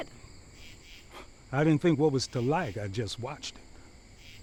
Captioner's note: scoffs